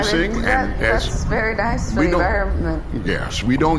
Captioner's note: voice shaking